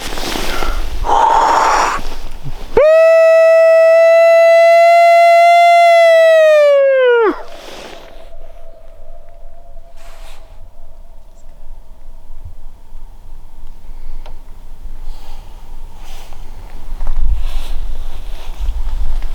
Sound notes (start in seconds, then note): 2.8 howling